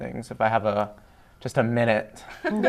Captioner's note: laughter